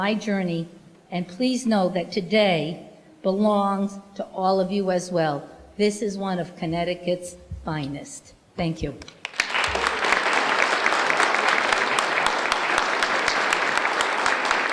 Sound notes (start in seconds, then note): 9.0 applause